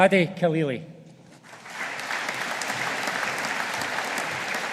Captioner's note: audience applauding